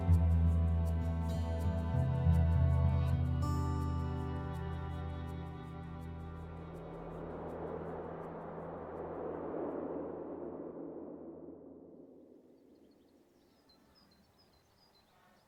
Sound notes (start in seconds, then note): 7.3 wind; 12.5 birds Chirping